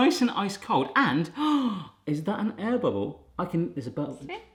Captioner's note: gasps